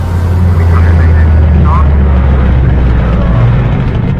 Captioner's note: spaceship roaring